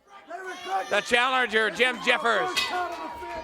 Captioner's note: crowd cheering